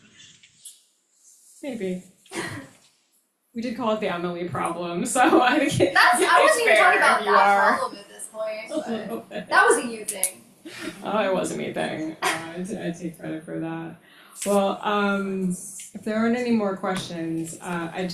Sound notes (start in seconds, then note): 2.5 chuckles